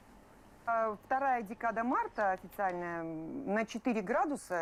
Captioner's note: speaks Russian